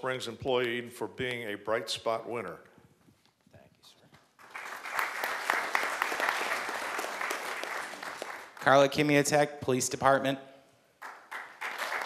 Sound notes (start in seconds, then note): 4.3 applause